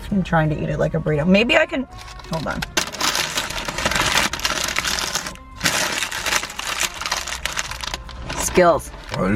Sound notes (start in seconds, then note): 2.0 paper rustling